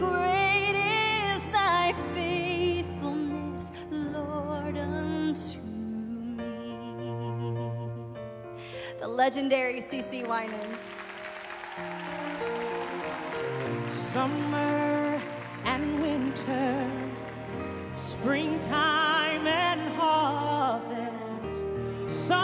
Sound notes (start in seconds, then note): 11.1 applause